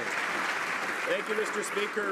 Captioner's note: some Applause